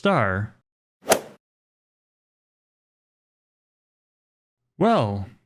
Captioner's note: golf swing sound effect